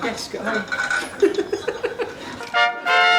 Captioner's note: laughs; trumpet noise